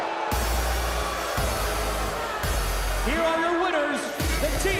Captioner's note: bell ringing